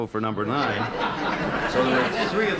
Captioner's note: laughter